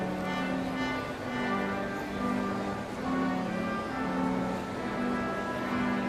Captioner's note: none